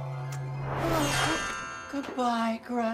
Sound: bells chiming

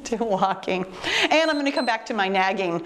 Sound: timer beeps

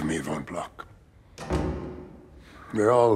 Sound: door closes

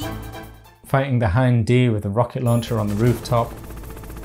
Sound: helicopter

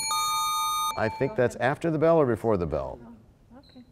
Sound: bell rings, time expires

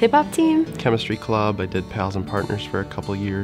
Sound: voiceover

